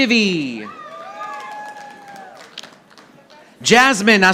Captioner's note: audience applauding